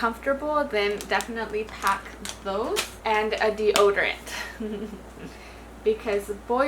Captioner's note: chuckles